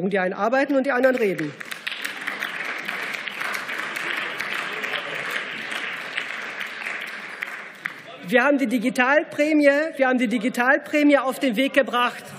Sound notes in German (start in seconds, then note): 1.0 Beifall